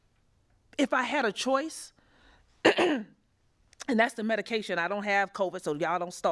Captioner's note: cough